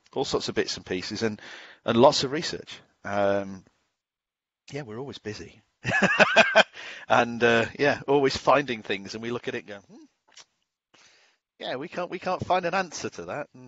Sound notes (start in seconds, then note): 5.9 laughs